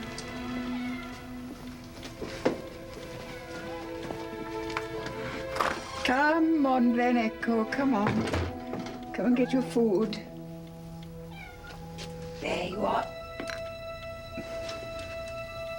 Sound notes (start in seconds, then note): 0.6 cat meowing